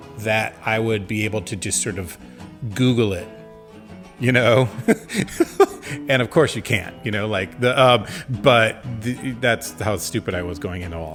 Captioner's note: laughs